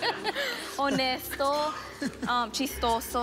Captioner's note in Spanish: Risas